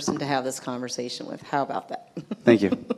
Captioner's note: chuckles